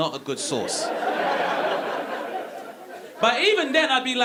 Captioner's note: audience laughing